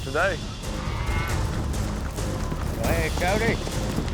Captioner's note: cow mooing